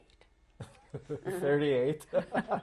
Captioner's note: laughs; laughter